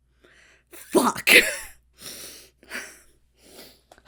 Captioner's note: Hana chuckles incredulously